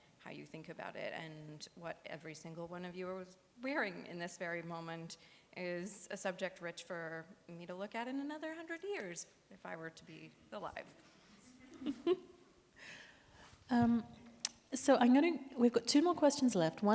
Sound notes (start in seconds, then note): 11.5 audience and chuckle